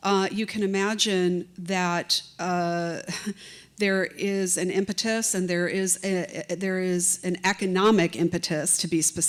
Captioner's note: chuckle